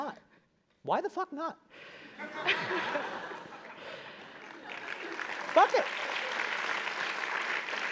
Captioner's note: laugh; applause